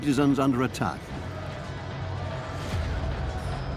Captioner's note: men shout